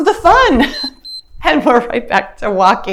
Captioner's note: timer beeps